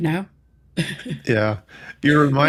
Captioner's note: laughing